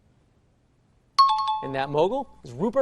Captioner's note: chiming